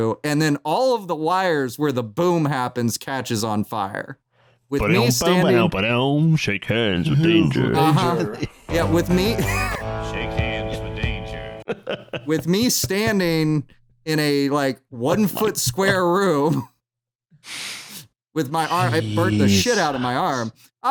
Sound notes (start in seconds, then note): 8.8 ♫ twangy guitar riff ♫; 12.1 chuckles